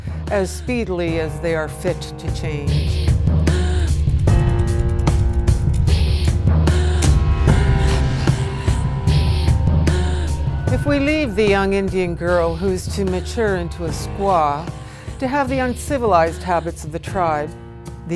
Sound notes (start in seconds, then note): 4.1 counter ticking